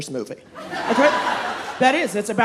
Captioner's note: audience laughing